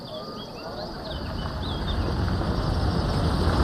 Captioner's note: car approaching